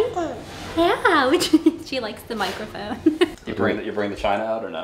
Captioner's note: laughs